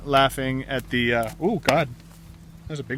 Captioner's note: sound of smacking a bug